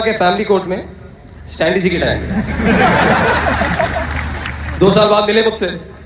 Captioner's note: loud Laughter